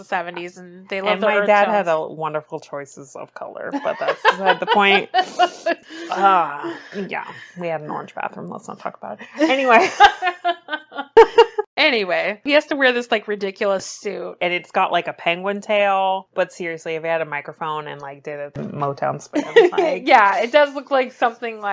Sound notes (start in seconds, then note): 3.8 laughs; 10.6 laughs; 19.3 laughs